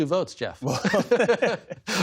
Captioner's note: laughter